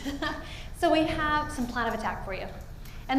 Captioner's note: laughs